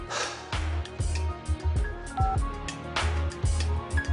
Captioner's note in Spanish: Bip